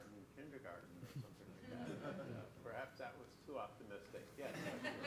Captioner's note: laughter